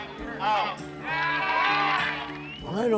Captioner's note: audience cheering